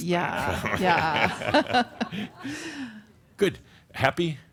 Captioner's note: they chuckle